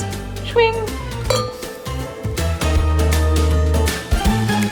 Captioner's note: glasses clink; upbeat spooky music